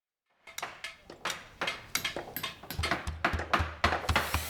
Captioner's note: construction noises